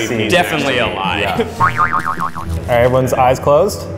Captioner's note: boing